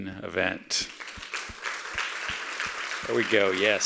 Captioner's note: audience applauding